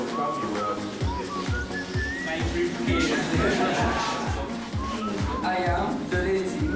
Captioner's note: chatter and laughter